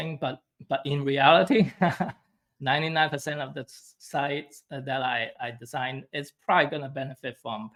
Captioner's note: chuckles